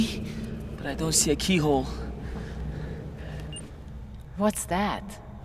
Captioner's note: beeping sound